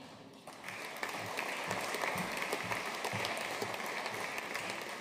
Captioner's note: audience applauding